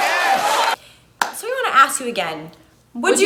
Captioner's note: claps